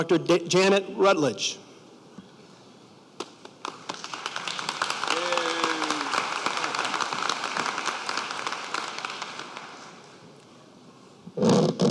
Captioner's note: applause